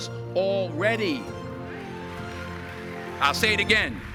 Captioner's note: audience applause